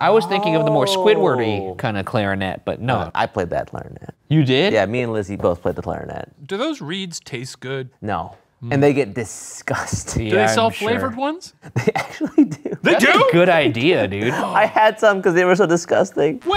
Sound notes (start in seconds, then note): 12.2 laughs